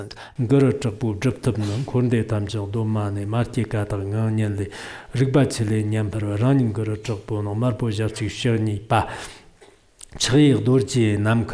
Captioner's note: giving oral transmission in Tibetan